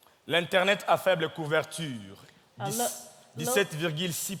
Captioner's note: speaking in French